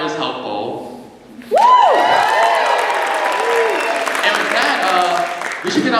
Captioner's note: cheering